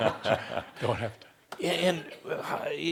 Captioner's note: some chuckles